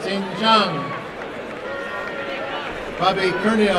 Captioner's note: applause and cheering